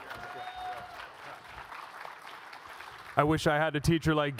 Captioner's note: audience cheers and applauds